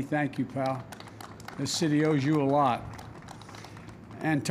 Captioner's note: applause